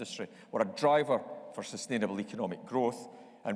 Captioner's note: none